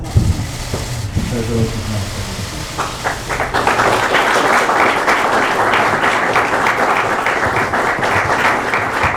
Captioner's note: applause